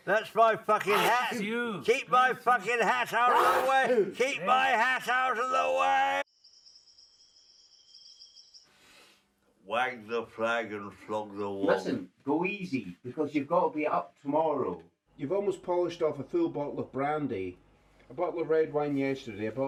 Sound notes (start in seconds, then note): 6.3 crickets chirping